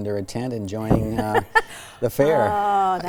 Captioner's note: laughter